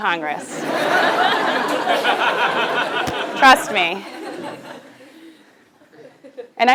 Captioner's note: laugh